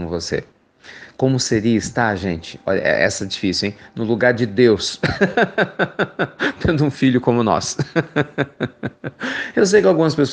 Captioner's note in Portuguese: risos